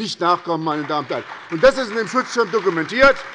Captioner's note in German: Beifall bei der SPD